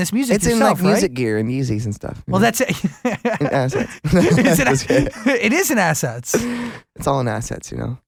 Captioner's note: laughs